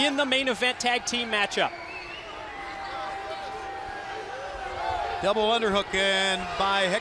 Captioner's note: crowd cheering